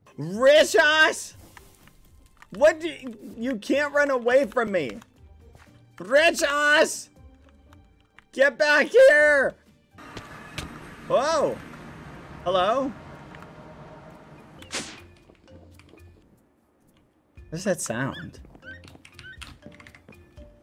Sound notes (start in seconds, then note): 2.4 stuttering; 20.4 ambient music